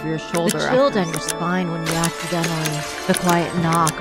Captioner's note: glass breaks